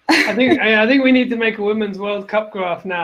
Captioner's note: laughs